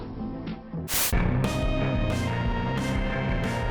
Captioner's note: static